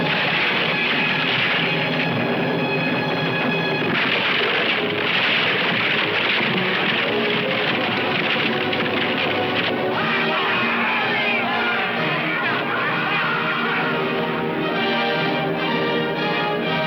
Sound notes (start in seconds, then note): 0.3 ship clattering; 0.3 tense music; 9.8 men cheering; 9.9 dramatic music